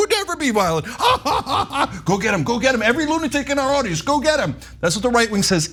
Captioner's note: laugh